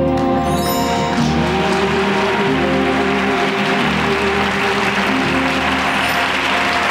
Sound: audience applauding

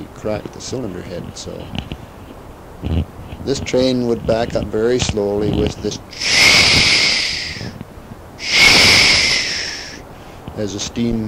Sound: pressure realease sound

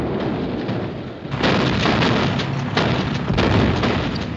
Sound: gunfire

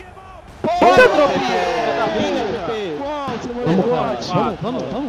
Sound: Furia’s team celebrating the round won

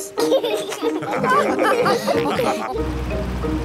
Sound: all laugh

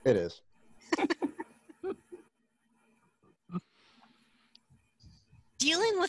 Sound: giggling

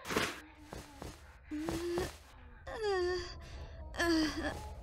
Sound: KOTONOHA makes squeamish noises

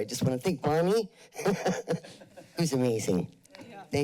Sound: laughs

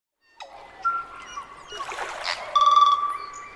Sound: birdsong

